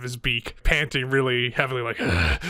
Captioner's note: grunting